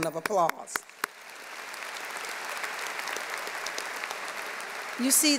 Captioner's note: audience applauding